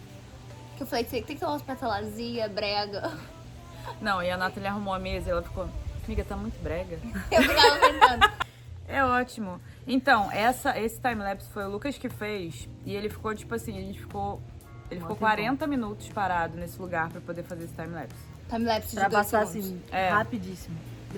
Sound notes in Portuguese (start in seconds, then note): 7.2 Everyone laughing